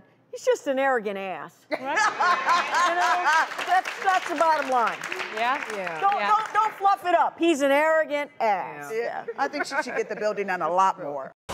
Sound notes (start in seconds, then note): 2.0 audience cheering